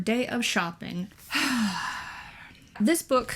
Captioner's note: eternal sigh